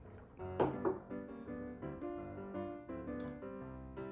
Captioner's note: cup hits table